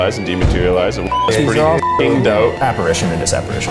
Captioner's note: beep